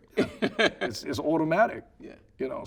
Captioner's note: laughing